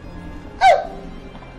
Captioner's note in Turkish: ağlama sesi̇